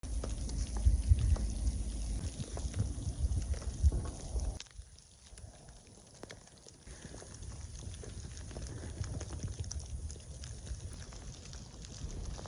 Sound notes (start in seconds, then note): 0.2 rain falling